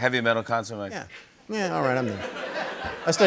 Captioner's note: laughter